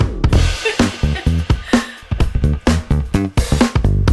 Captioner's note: laughs